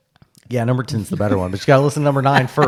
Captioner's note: laughing